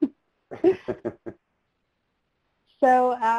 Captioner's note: laughing